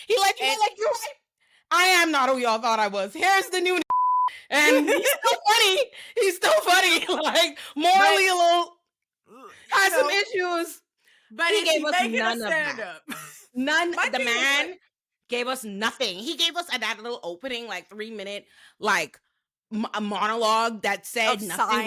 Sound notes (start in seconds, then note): 3.8 beep